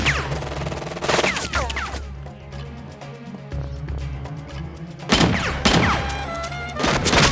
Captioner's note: dramatic music; punches landing; dramatic music; guns firing